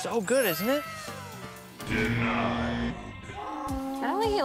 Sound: buzzer buzzes

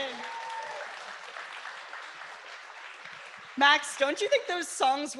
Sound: applause

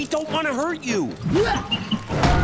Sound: grunting

